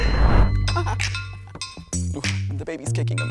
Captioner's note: bell dings